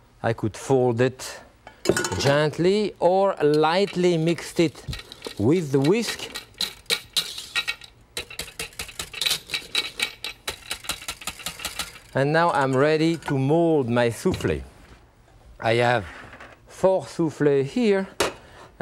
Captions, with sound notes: I could fold it gently or lightly mixed it with the whisk. (whisk clattering) And now I'm ready to mold my souffle. I have four souffle here